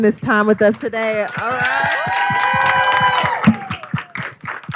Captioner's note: crowd cheers